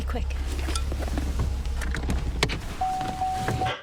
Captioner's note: seat belt, door rattle; door chime rings, repeatedly